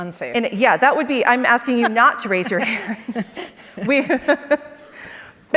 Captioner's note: laughs